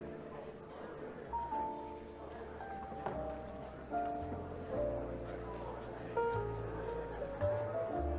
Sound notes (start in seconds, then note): 0.0 attendees chattering; 0.3 lighthearted music